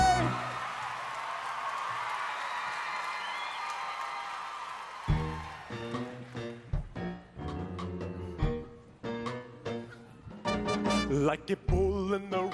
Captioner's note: cheers and applause